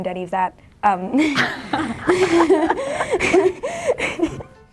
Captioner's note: laughs